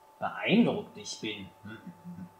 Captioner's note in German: anerkennendes Gebrummel